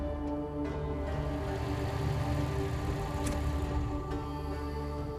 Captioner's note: engine rumbling